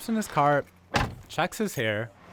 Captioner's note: door slamming